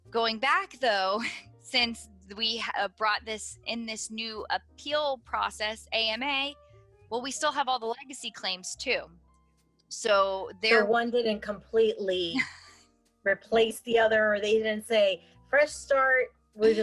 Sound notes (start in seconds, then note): 12.3 laughs